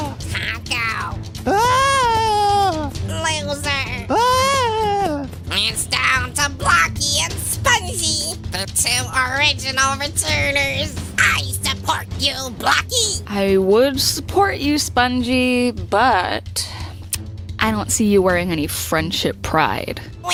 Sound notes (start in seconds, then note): 1.4 howling in panic, once again!; 4.0 howling in panic, hopefully for the last time!; 17.1 lip smack